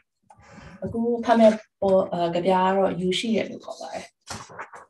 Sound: speaks in Burmese

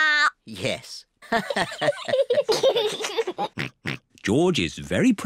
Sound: all laugh

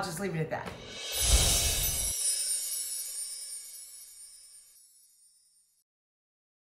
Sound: air whooshing; gentle chiming bells

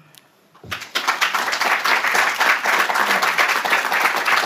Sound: audience applauds

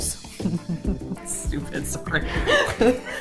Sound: laughing

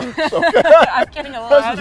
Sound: both laughing; laughs

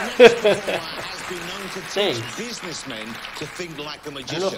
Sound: laughs

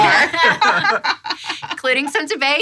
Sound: all laughing

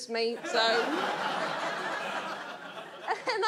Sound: audience laughs

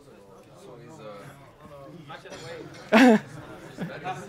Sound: laughter

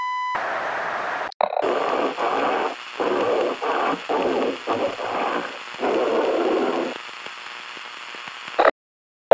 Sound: last breaths

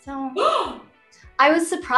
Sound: gasps

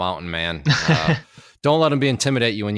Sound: laughs

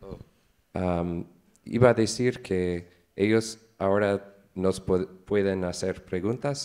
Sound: speaks in foreign language

